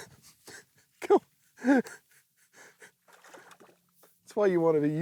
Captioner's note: giggles; laughing